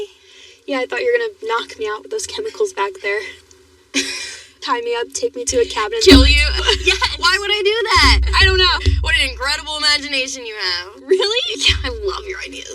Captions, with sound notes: Yeah, , I thought t you were gonna knock k me out with t those chemimicals backck there... [lauaughs] Tie meme up, takeke me to a c cabin, -andnd-- -Kill l you? -Yes!! -Why w would I do ththat? I I don't know. What an inincredible i imaginan you have. -R-Really? -Yeaeah, I love e your idea.